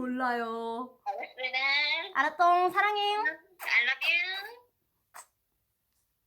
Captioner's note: smooch